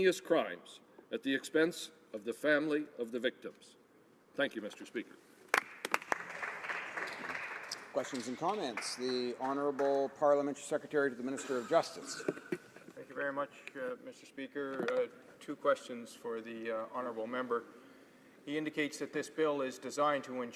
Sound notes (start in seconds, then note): 9.1 applause